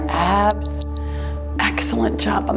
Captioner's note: timer beeps